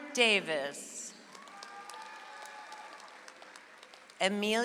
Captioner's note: audience applauds